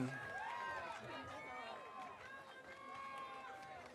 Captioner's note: audience cheering